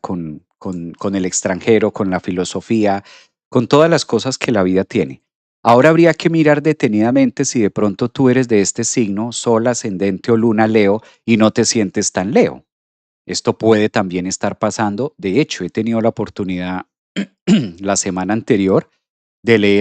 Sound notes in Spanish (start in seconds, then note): 17.2 carraspeo